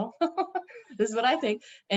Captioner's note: chuckles